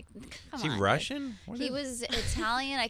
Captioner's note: laughing